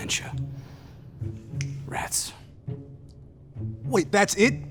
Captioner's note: snaps fingers